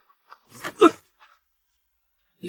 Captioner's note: cough